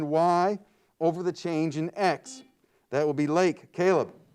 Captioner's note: buzzer beeps